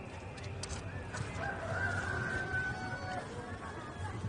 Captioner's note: rooster crows